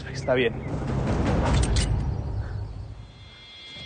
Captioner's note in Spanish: Sonido al amartillar